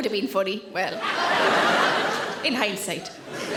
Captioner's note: audience laughing